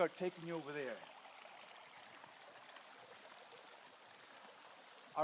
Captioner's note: water running